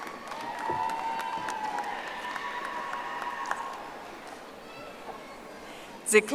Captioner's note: audience applauding